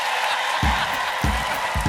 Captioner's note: applause